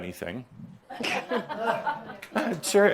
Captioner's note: she laughs